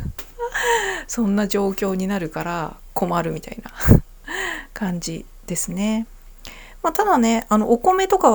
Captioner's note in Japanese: 息をのむ音; 笑い